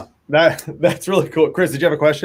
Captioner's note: laughs